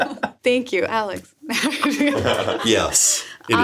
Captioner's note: laughs